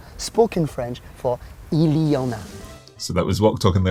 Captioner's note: speaks in foreign language